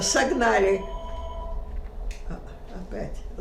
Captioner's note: phone ring